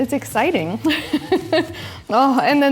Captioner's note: laughs